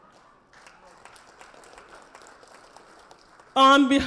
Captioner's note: audience applause